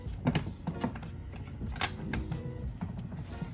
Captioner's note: door clicks